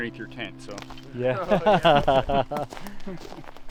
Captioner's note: laughs